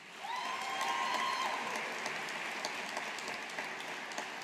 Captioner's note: audience applauding